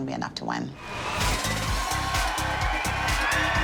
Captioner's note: whooping